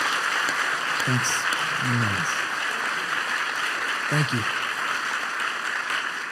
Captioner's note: applause